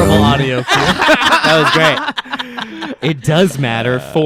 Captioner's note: laughing